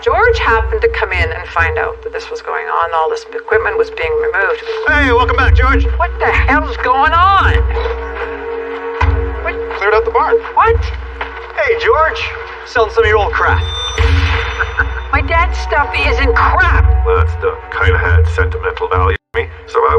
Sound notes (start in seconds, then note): 14.4 Ron laughs